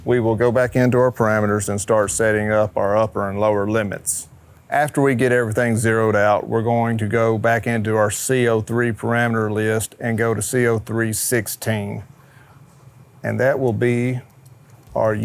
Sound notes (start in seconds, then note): none